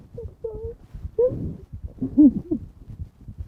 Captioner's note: sobbing